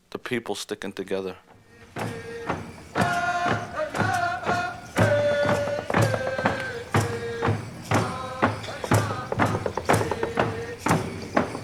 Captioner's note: chanting